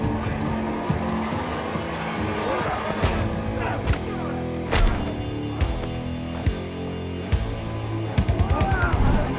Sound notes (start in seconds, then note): 3.0 both moaning; 6.4 dramatic music